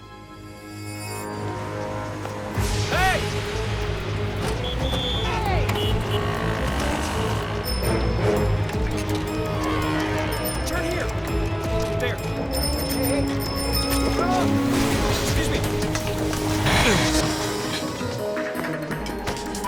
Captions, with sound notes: HEY! [POLICE WHISTLE BLOWS] HEY! [CAR HORNS HONKING] [BICYCLE BELL RINGS] TURN HERE! THERE. HEY! HEY! AAH! EXCUSE ME! UH!